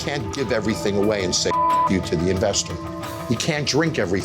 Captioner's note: beep